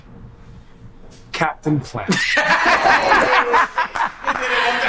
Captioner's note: group laughs